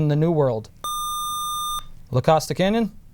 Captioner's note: buzzer